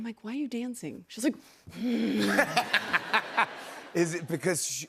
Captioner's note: growls